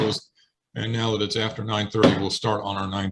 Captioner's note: sounding the gavel